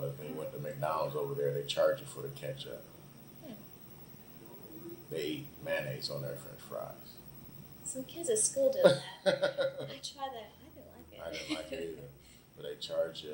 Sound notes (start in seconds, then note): 9.2 laughs